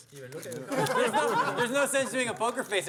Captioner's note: laughter